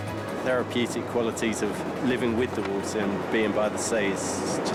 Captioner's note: none